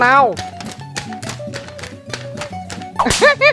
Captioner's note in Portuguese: Página dobrando e desdobrando